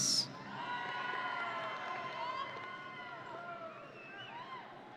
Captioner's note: audience cheering